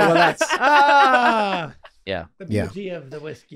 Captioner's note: laughing